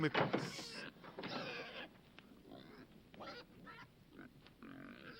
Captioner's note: speaking foreign language; Paisan squealing